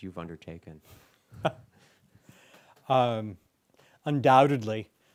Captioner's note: chuckles